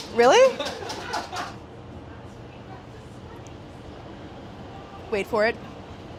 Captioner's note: film crew laughs